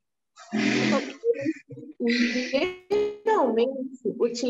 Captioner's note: speaking portuguese